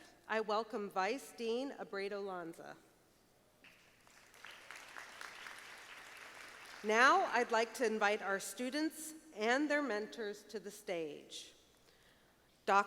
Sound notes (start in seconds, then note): 4.0 audience applauding